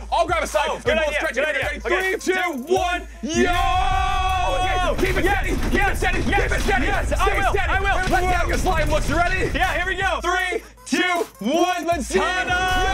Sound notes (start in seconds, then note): 3.2 yelling